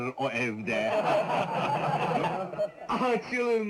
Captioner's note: crowd laughing